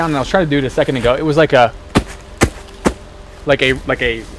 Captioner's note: foot thudding